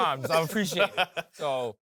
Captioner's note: laughs